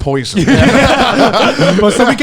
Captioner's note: all laughing